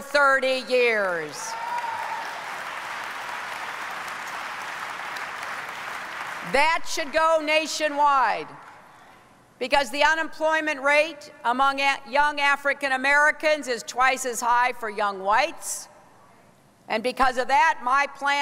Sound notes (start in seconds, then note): 4.4 applause